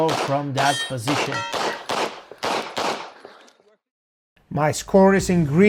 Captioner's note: gunshots banging